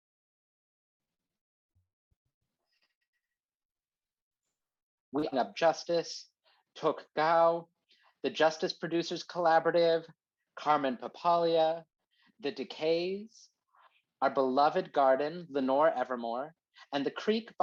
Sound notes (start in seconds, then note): 5.5 video glitches